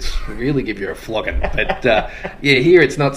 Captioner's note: laughs